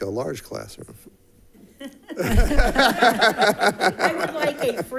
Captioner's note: people chuckling